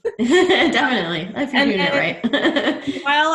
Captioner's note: laughs